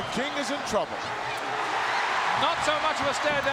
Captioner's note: audience cheering